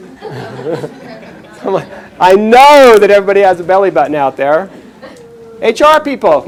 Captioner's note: chuckles